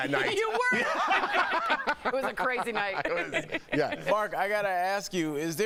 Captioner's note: laughter